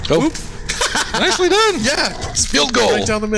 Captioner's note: laughing triumphantly